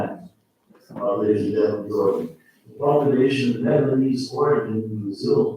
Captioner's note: faintly speaking